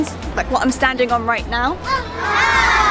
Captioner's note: crowd cheers